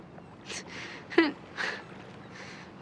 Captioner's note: sniffling